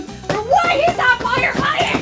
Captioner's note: objects thudding